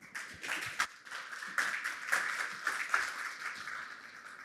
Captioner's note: applause